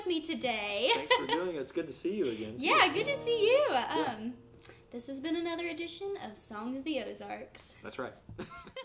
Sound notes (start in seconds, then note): 8.4 both laugh